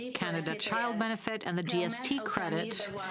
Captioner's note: speaking French